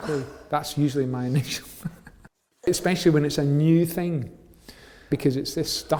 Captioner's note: laughs